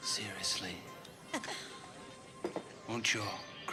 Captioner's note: laughs